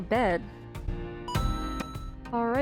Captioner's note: ba ding!